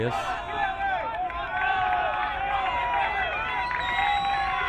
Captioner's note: crowd cheering